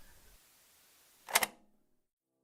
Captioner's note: click